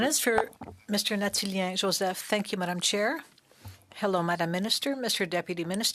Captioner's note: speaking French